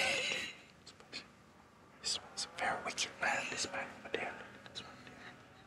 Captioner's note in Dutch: fluistert